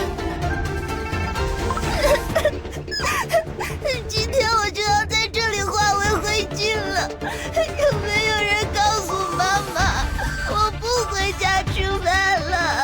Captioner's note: sob